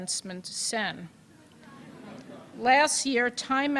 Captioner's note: laughter